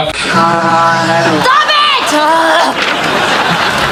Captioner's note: groaning